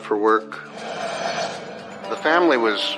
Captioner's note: rumblblining